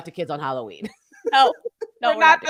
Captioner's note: both chuckling